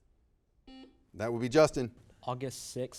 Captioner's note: buzzer beeping